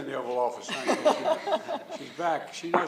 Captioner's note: laughter